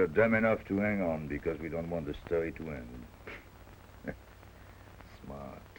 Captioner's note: chuckles